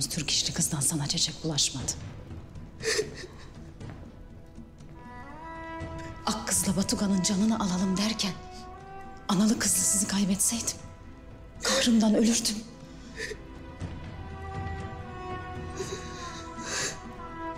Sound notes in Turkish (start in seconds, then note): 2.6 Ağlama sesi